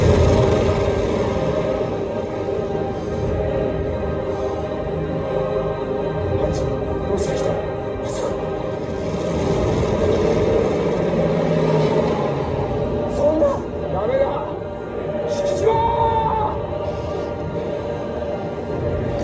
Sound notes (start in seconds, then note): 8.8 plane flies